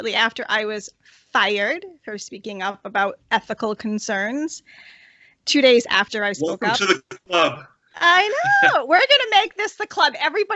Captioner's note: laughter